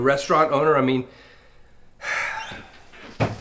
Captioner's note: sighs